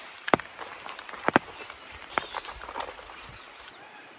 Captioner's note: animal sounds